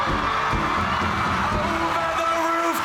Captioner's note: audience cheering